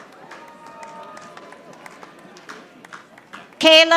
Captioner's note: audience applauding